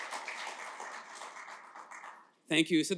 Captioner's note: applause